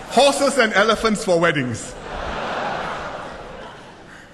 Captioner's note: laughter